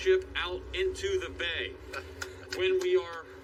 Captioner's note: laughing